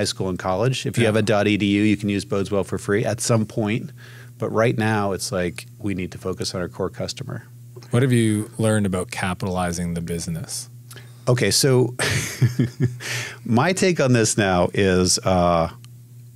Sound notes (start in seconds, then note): 12.0 laughs